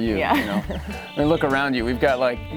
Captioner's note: chuckles